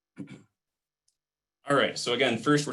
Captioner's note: clearing throat